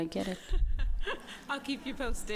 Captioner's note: laughs